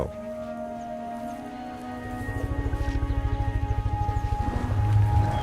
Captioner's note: elephant rumbles; animals calling